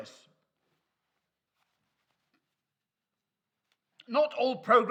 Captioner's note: clip-on mic shuffling